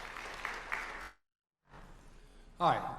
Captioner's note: applause